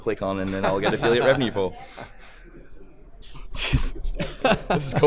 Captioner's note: laughs